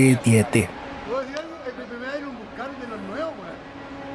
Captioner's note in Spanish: sonidos de conversaciones